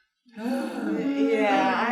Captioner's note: sighs loudly